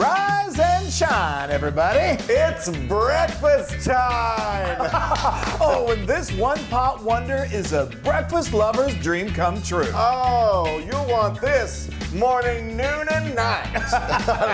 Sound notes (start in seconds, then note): 4.0 laugh; 13.2 laugh